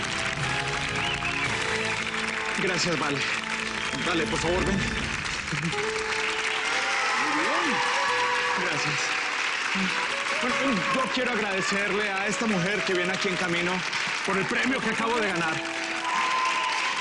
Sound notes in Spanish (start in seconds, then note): 0.2 Aplausos; 8.9 Aclamaciones; 8.9 Aplausos